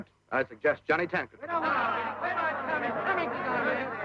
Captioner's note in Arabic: يتحدث الحشد مع بعضهم البعض